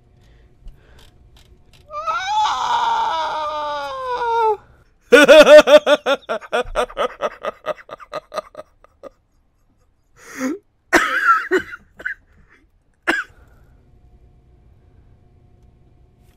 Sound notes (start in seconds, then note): 10.9 cough cough